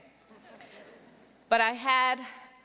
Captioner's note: audience laughing softly